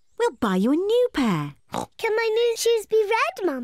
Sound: oinks

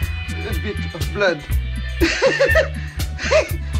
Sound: giggles

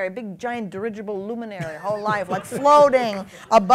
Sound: laughter

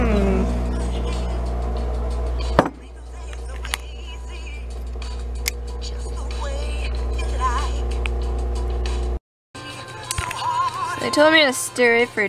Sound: whirring sound again

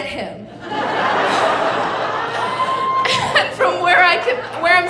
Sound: audience laughing

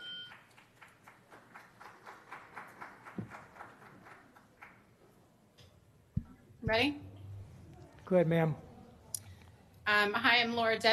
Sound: bell ringing

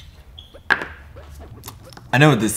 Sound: chalk dropping

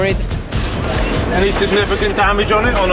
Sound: machinery squealing

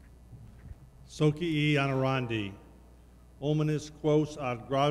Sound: speaking latin

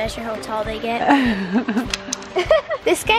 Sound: both laugh

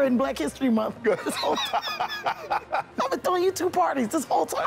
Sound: both laughing

